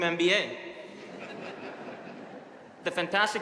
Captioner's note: audience laughing